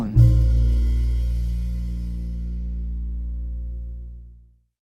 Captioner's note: soundbite of archived recording